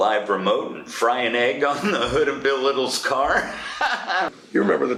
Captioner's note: laughs